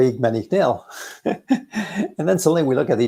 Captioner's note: both laughing